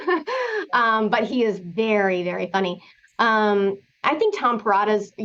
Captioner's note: laughter